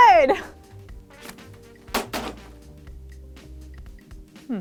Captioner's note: banging